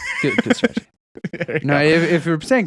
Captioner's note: laughing